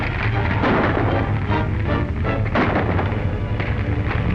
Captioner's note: gunshots